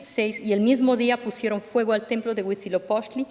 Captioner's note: speaking spanish